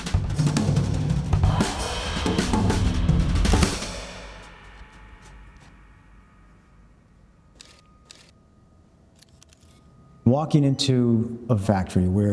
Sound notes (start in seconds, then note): 3.7 camera clicks; 3.7 percussion music ends; 8.0 camera clicking